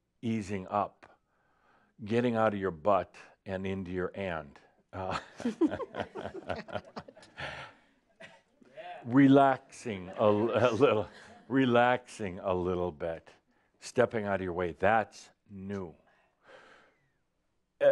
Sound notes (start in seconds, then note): 5.0 some giggles; 8.2 some chuckles